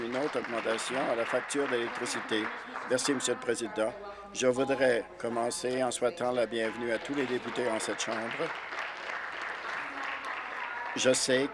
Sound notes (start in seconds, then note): 3.0 applause